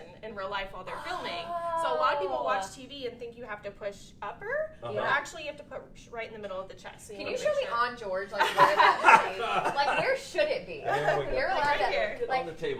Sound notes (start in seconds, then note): 8.4 laughing